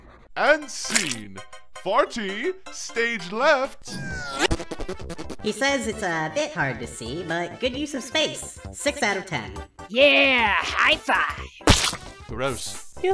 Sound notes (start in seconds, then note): 4.2 fart noises; 11.6 splat